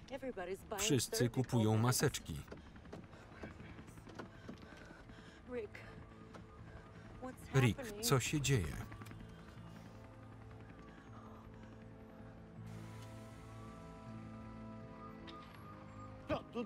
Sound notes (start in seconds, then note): 8.5 helicopter rumbles; 13.0 somber instrumental music